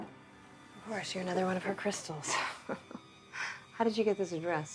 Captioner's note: laughs